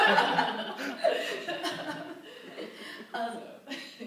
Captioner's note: laughter